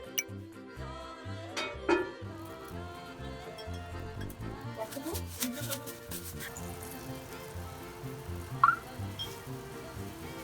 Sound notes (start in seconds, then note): 6.5 frying